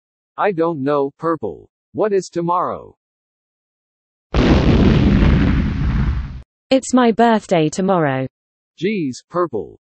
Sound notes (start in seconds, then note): 6.7 shouting